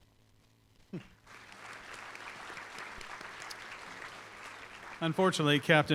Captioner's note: applause